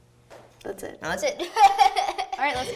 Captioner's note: laughs